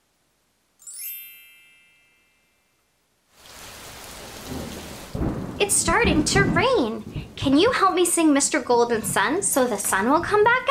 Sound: storm sounds

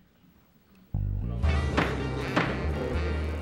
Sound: pounding gavel

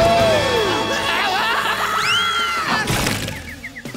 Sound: screaming

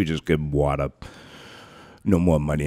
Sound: takes a deep breath

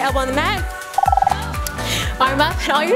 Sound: timer buzzing

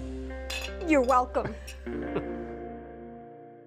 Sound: chuckles

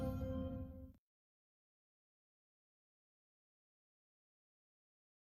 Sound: silence

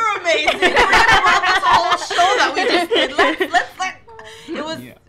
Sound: laughs

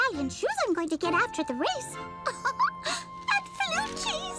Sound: giggles

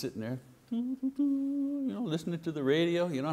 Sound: humming

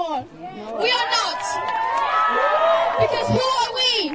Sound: audience cheers and applauds

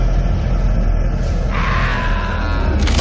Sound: wailing and screaming; tearing noises

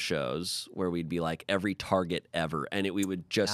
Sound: none

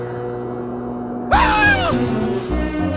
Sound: shrieks

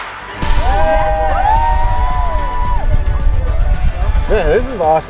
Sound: group cheering

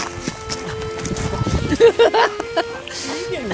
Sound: hearty laughter

